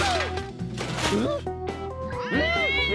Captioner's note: exclaims; yowls